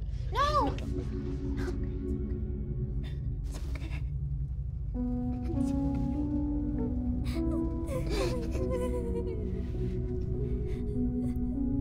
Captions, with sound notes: - No! - It's okay, it's okay. (Lynae cries) It's okay, it's okay. (somber music) (Lynae sobbing)